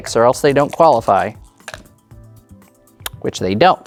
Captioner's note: dice rattling; dice rolling